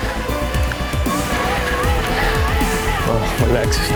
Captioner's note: bike wheels whirring